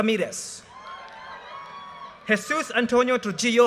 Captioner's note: audience cheers and applause